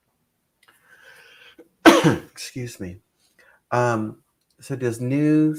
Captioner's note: coughs